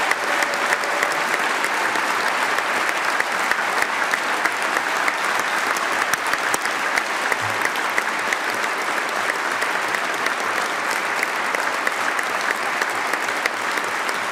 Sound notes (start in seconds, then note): 2.2 applause